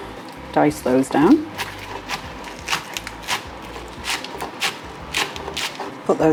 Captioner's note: chop chop chop